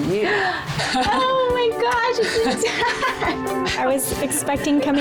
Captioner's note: laughs